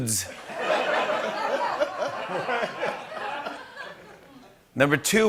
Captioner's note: laughter